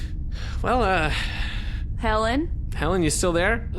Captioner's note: sighs